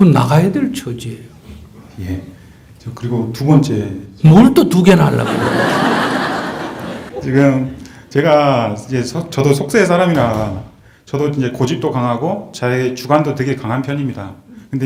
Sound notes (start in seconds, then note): 7.2 audience Laughter